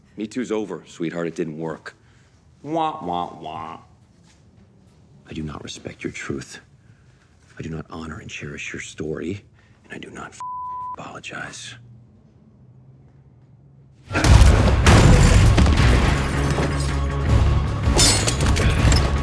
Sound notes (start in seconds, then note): 10.4 beep; 14.1 fighters grunting; 15.4 dramatic suspense music